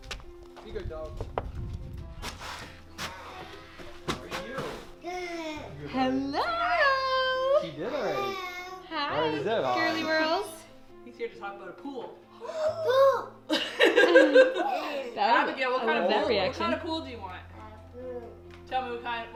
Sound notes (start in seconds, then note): 12.4 gasps; 13.5 laughing